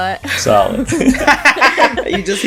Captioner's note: laughter